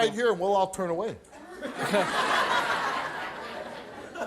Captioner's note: audience laughs